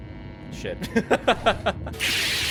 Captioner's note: laughs